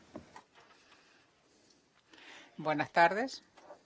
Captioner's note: in Spanish